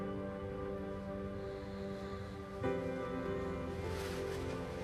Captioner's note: soft snoring